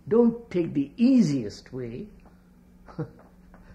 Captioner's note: laughs